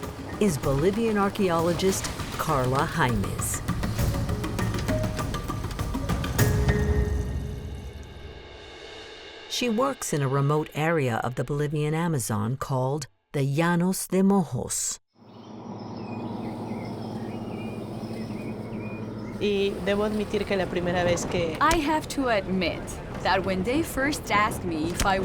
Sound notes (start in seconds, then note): 16.8 birds twittering